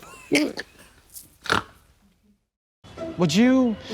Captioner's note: blonde Women giggle and snort